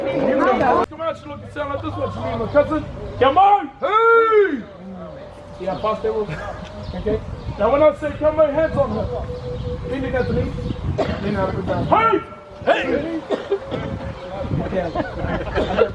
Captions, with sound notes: (group murmuring) (presenters leading chanting) - Now when I say come on, hands on hips. (performers chant)